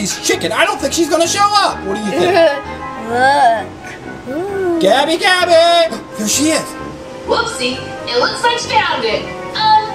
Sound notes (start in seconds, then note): 2.0 assistant giggles; 6.0 gasps